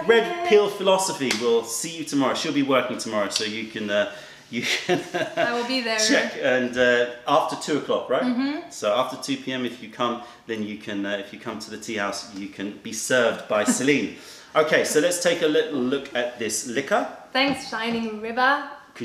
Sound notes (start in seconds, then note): 4.6 laughter